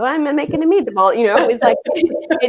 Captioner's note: laughs